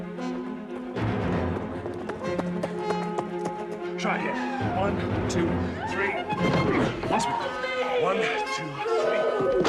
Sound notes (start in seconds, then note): 4.2 screaming